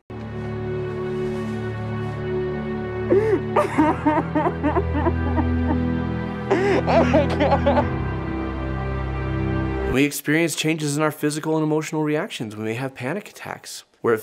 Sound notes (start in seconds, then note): 0.2 intense music; 3.0 man crying